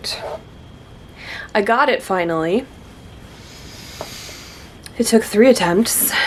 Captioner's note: deep breath